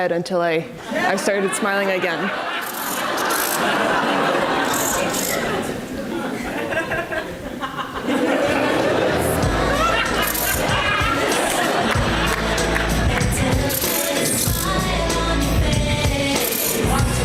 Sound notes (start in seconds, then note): 2.8 audience laughs; 7.6 audience laughs; 11.8 audience laughs and applauds